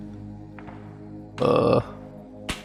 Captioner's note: groan